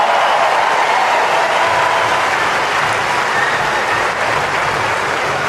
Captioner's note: applause